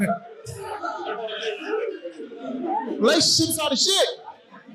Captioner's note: audience laughing